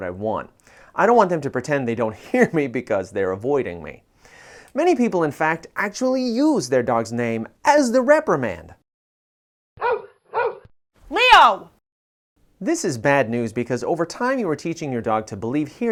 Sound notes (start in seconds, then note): 9.8 dog bark